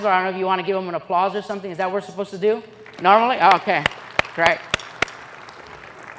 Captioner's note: applause